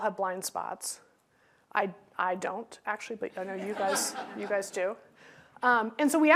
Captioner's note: laughter